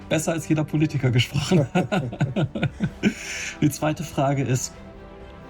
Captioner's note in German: spricht in einer Fremdsprache